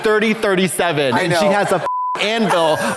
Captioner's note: beep